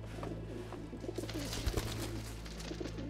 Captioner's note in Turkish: Kanat çırpma sesi